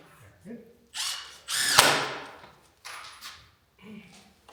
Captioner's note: drill whirring